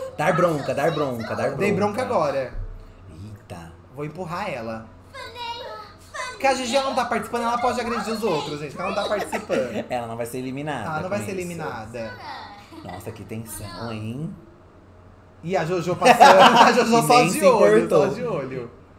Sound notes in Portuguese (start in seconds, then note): 5.0 Sims conversam